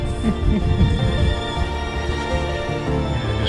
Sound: laughing – maybe crying?

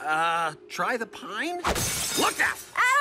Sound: glass shatters

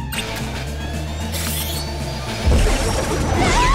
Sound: alex and sam scream

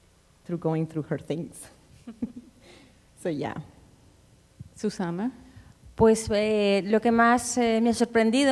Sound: speaking Spanish

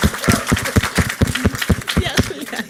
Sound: foreign language 00:23:55

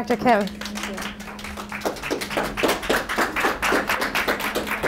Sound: group applauds

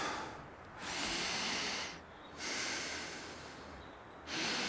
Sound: breathing deeply

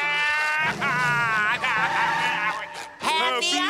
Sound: sobbing

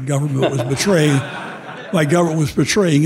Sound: audience laughing

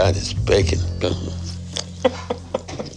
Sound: laughing

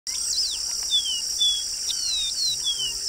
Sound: seedeater bird songs

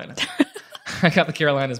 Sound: laughs

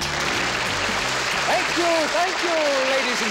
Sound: audience applauding

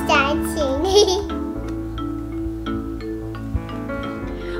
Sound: giggling; light music

